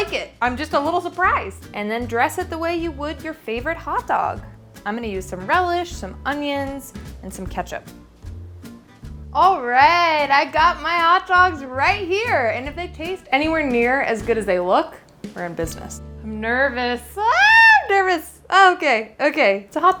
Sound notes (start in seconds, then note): 8.2 cheerful music; 17.3 screams